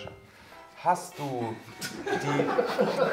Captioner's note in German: Lachen